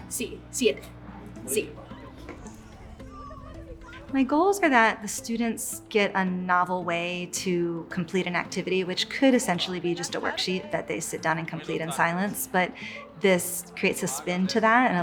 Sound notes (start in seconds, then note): 0.1 speaking in Spanish; 1.6 student speaks in Spanish